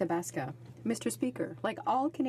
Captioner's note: speaking French